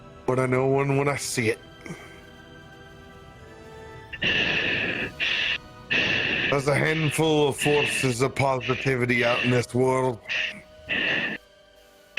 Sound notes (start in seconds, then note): 4.1 heavy breathing; 4.2 Krel continues to breathe; 10.2 Krel laboured breaths